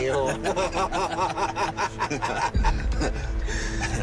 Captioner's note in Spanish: Risas